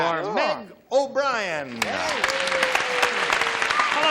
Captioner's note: applause